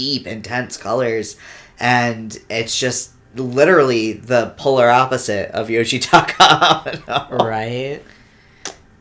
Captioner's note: laughs in pain